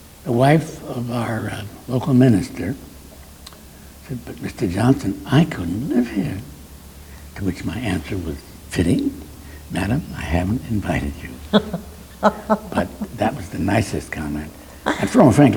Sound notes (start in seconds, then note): 10.8 interviewer laughs